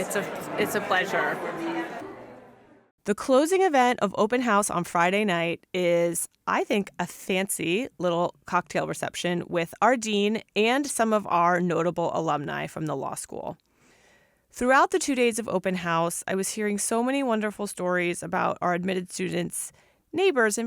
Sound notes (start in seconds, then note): 2.1 background chatter